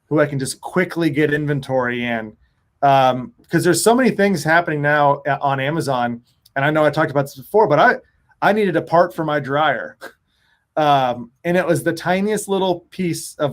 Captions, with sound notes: who I can just quickly get inventory in? 'Cause there's so many things happening now on Amazon. And I know I talked about this before, but I needed a part for my dryer. (chuckles) And it was the tiniest little piece